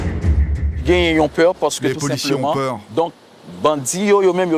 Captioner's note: French spoken audio